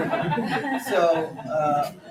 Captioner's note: laughter